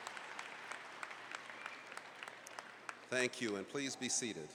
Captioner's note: applause